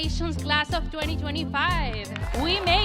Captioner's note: crowd cheering